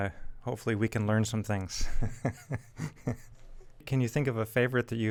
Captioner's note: chuckles